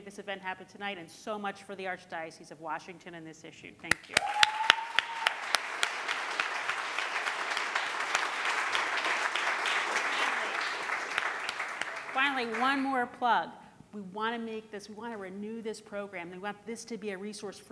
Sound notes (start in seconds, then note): 3.9 applauding; 4.1 cheering